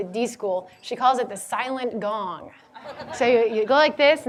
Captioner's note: audience laughing